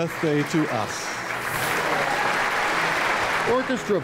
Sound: audience applauds

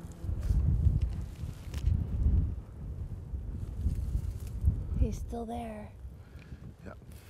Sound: wind gusting

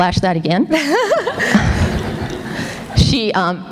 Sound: laughter

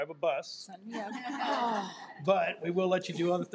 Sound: people laughing

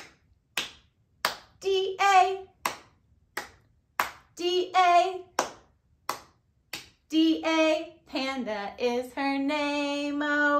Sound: clap, clap, clap

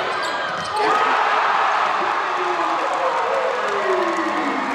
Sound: crowd cheers

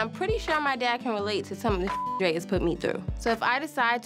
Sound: beep

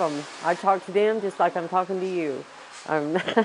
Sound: laugh

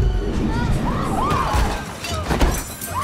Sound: exclaims; girls screaming; objects clattering

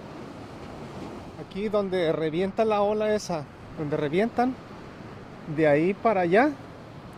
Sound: waves crashing; speaking Spanish

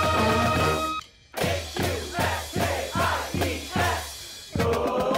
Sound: crowd

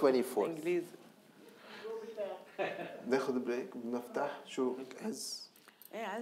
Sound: speaking in foreign language

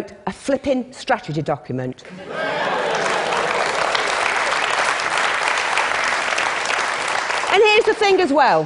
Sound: applause

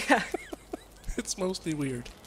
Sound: still laughing

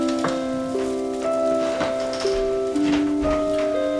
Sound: creaking sounds

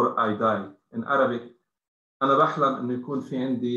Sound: speaking arabic

